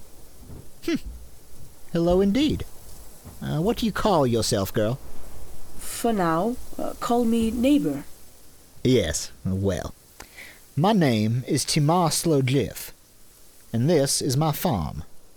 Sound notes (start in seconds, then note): 6.3 accented